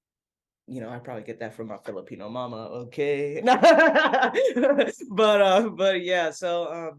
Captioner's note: laughs